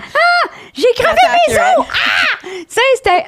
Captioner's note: in french